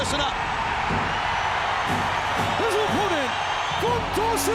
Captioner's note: fans cheering